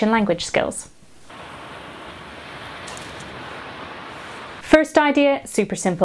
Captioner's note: waves crashing